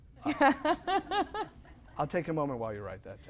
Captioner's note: laughter